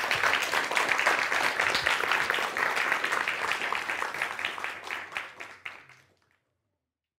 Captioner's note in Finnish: aplodeja